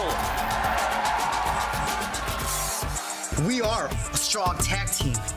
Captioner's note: crowd cheering